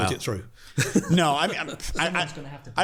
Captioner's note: hosts laugh